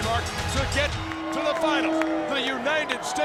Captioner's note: bell rings